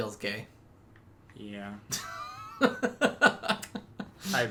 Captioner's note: laughs